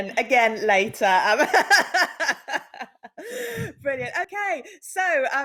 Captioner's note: laughs